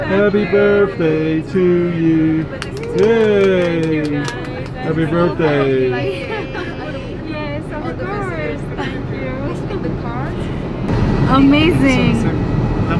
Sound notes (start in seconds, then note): 2.6 and crew cheers